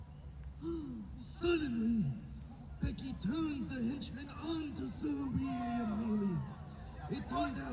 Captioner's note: gasp